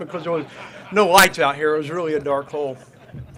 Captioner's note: crowd laughs